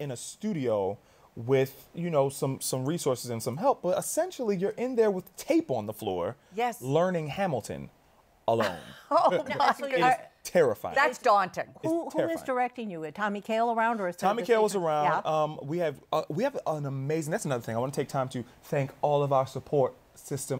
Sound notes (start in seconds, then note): 8.6 laughs